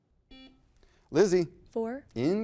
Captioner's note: buzzer beeping